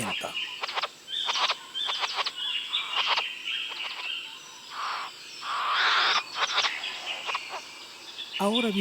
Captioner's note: bowerbird sounds